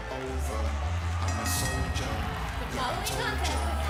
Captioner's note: bell ringing